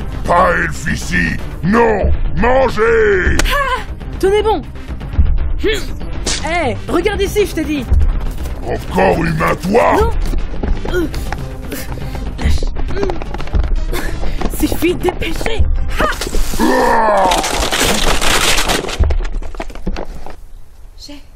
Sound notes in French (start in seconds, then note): 16.5 bruit d’effort; 16.6 long cri de douleur